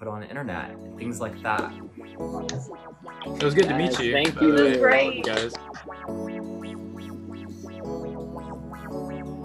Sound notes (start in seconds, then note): 4.1 all chattering